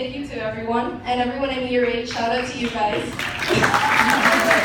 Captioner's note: big applause